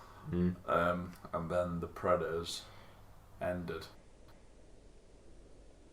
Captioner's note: none